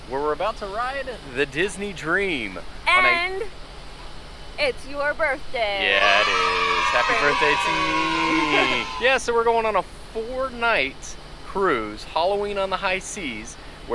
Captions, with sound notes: where we're about to ride the Disney dream. - And it's your birthday. (children cheer) - Yeah, it is. Happy birthday to me. Yeah, so we're going on a four night cruise, Halloween On The High Seas,